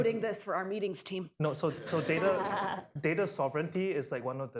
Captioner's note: laughter